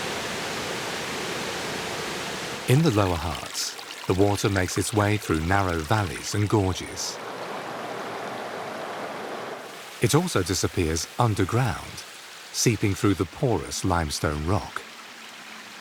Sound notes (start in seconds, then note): 7.9 water roars